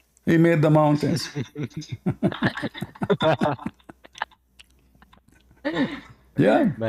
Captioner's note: Ketawa